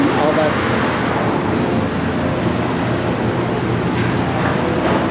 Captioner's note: general construction noise, pounding, etc